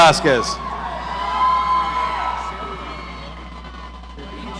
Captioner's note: audience cheering